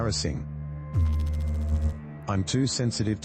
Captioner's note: electrical noise